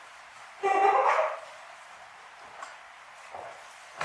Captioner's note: giggle